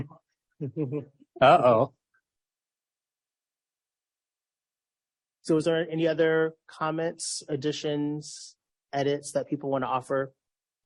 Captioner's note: laughs